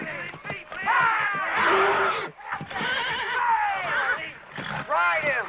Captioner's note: screaming; screaming